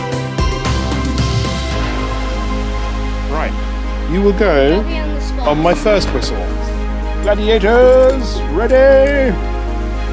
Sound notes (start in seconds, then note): 8.0 hooter